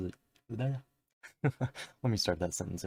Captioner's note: chuckle